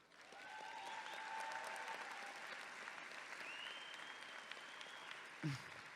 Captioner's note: audience clapping and cheering